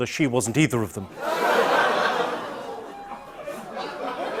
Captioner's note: audience ohhs; light laughter